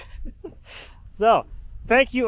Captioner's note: chuckles